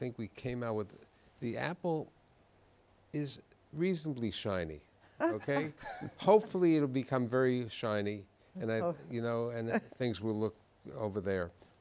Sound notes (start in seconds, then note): 5.2 laughs